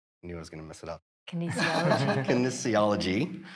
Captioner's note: all laughing